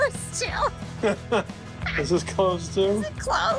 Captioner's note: laughing; laughs